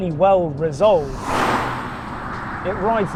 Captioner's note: car whooshes